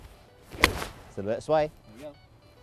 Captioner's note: golf ball cracking